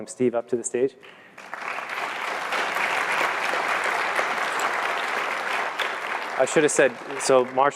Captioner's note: applause